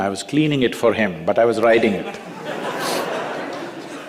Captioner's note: laughter